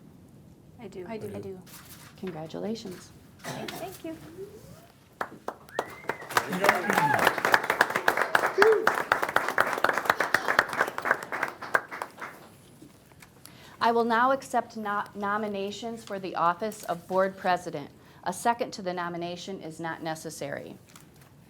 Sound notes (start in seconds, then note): 5.1 group applauding; 5.6 group cheering